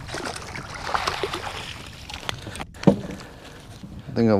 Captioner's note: water splashing